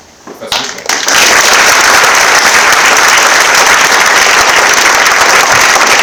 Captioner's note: applause